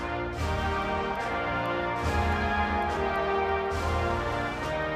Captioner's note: speaking French